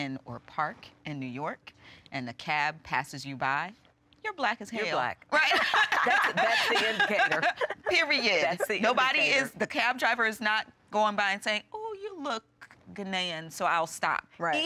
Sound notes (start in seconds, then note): 5.4 group laughs